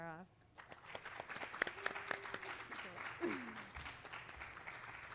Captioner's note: applause